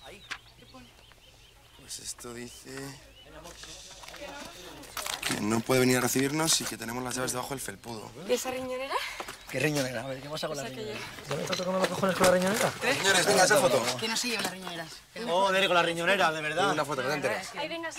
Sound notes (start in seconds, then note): none